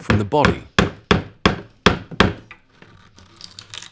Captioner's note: hammer banging